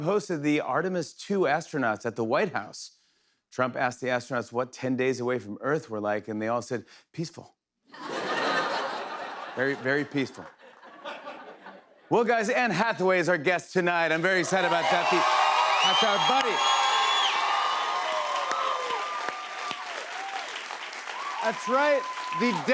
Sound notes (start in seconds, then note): 17.0 cheers and applause